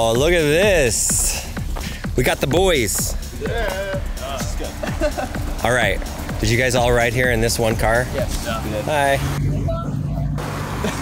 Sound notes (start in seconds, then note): 3.3 boys laughing